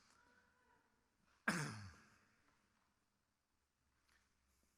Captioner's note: clears throat